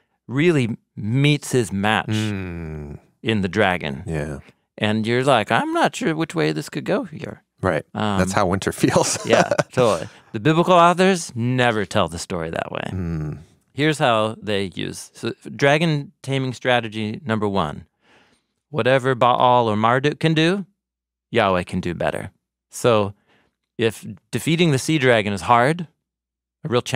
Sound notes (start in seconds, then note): 8.2 laughs